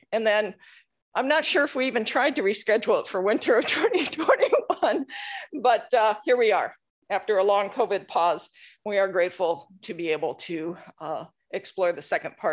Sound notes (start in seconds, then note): 4.0 laughing